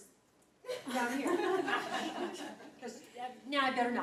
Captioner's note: laughing